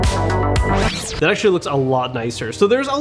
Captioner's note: tape playing backward